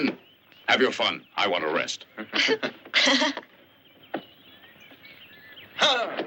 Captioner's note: laughter